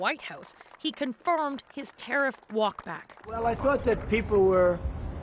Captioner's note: applause